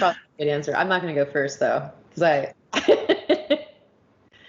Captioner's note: laughing